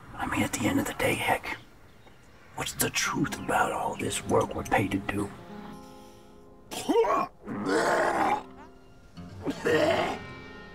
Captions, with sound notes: I mean, at the end of the day, Heck. What's the truth about all this work we're paid to do? (Richard retching)